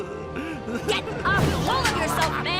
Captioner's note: sobbing